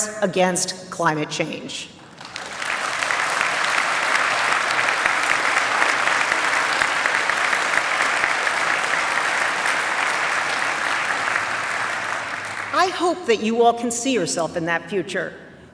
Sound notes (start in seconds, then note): 2.0 applause